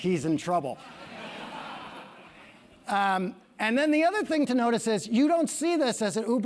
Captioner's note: laugh